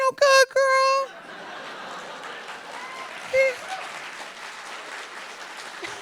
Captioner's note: audience applauding